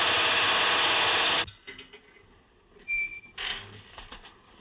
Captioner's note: gate Rattles, Squeaks